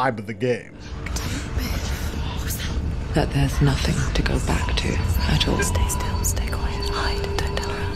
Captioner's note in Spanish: audio del juego